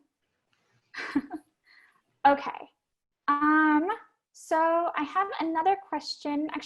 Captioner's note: laugh